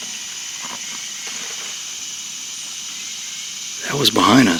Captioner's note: foliage crunches in the distance